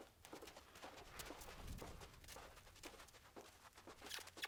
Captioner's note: kissing calls